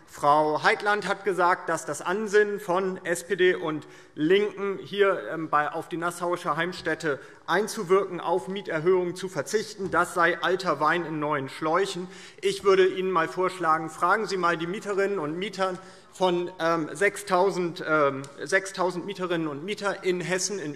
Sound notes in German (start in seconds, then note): none